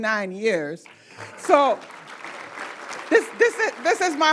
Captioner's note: applause